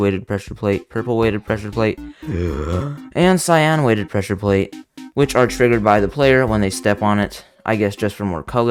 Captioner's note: gasps of desperation